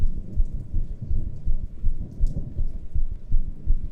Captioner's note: rain fall